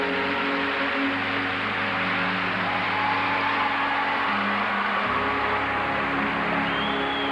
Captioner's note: applause